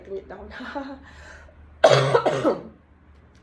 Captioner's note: cough